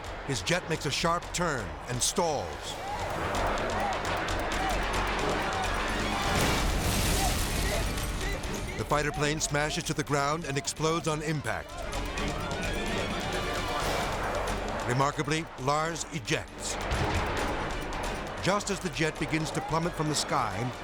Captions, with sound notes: His jet makes a sharp turn and stalls. (person shouting) (jet crashing) The fighter plane smashes to the ground and explodes on impact. (dramatic music) Remarkably, Lars ejects, just as the jet begins to plummet from the sky,